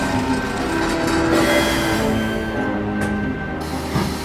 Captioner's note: machinery slowing down; machinery stops; warp engine chuffing